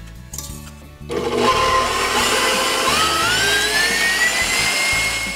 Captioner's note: mixer running noise